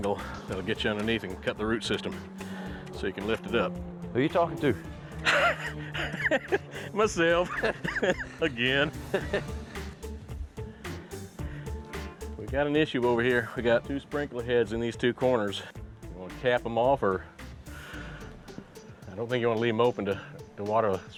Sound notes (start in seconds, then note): 5.2 laughs